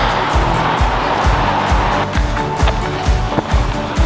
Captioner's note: water rushing